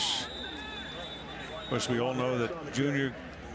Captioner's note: whistle